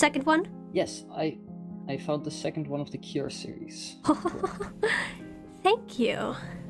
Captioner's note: ROSE laughs